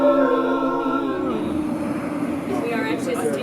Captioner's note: highway noise